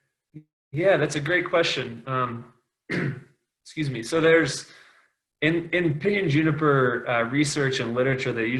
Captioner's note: clears throat